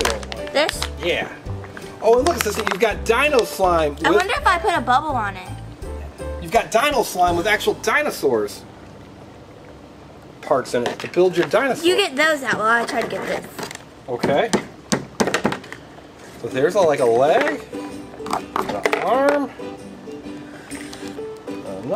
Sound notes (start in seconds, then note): 14.9 hammer bangs; 17.7 upbeat music